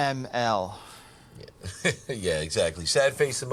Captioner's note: laughs